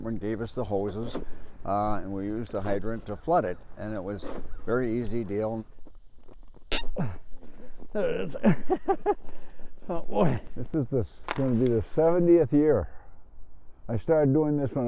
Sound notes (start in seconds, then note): 7.6 squeaks; 9.8 laughing